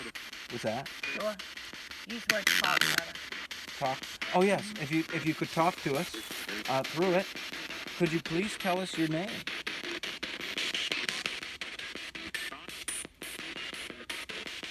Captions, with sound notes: Whats that? [chatter] [Spirit box scanning] Talk? Oh yes. If you could talk to us through it could you please tell us your name?